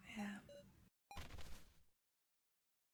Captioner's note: thudding sound